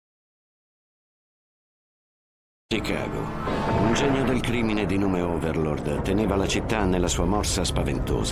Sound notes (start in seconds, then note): 3.1 explosion booms